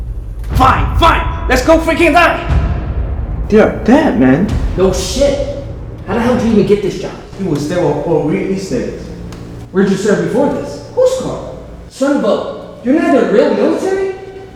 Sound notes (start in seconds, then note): none